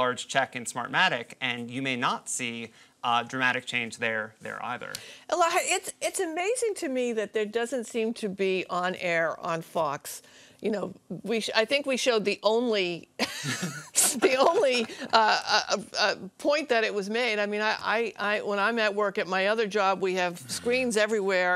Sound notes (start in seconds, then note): 13.4 laughs